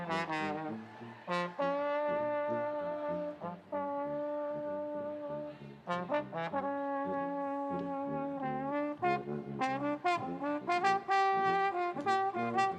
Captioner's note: cheers and applause